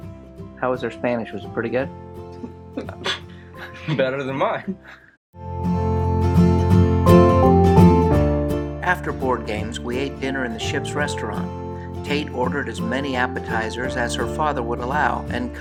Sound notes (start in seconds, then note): 2.8 scoffs